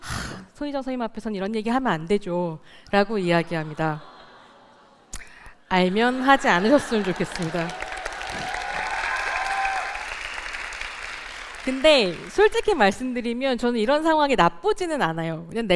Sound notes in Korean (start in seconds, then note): 10.1 박수와 환호